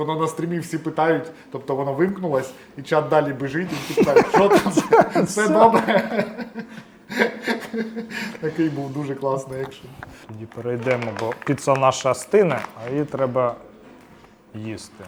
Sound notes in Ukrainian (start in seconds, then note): 3.2 сміх